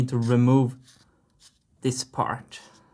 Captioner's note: marker sounds